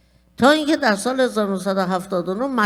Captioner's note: speaking persian